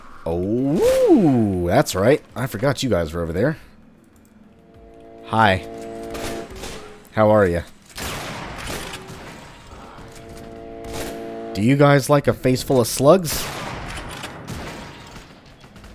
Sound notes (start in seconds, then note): 6.1 double shotgun blast; 7.9 bam; 15.4 bam